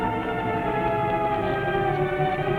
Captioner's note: none